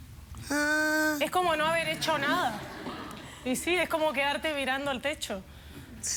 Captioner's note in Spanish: Risas